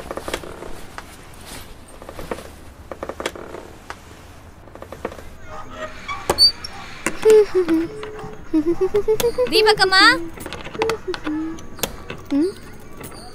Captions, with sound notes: (sound from the door latch) (Oviya humming a tune) Deepak's mom....?